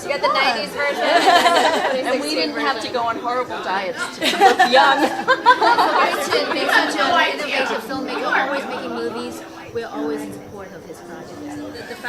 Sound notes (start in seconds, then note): 3.5 all laughing